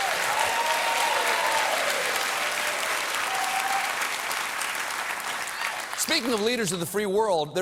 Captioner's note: cheers and applause